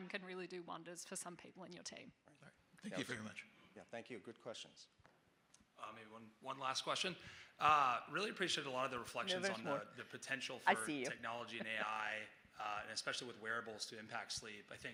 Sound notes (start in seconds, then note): 11.4 chuckling